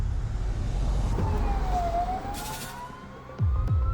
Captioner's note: siren wails